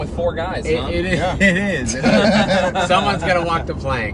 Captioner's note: laughing